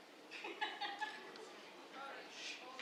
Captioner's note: laughter